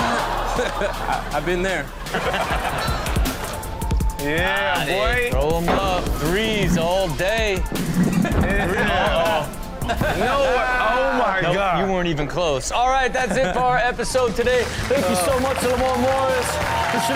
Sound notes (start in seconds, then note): 0.0 laughs